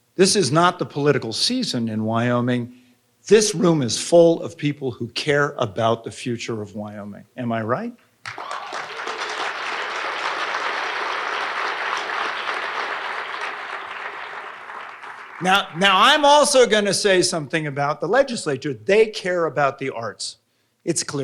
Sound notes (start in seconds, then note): 8.2 audience applauding